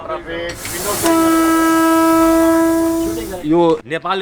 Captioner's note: train whistle goes off